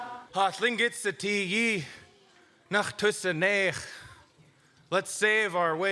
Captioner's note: speaking in Lingít